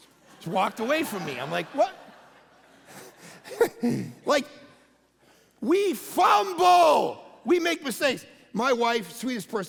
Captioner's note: congregation laughing